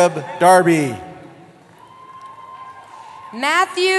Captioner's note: cheering